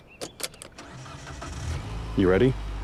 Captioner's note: engine revving